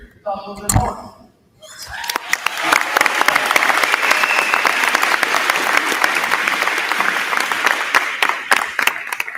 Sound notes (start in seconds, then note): 1.8 crowd cheering; 1.9 crowd clapping